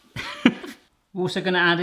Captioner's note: laughs